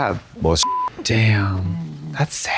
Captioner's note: beep